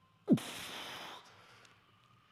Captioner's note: exhales